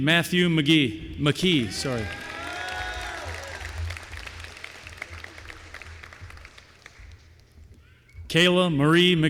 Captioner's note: applause